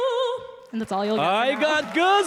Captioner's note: applause and cheers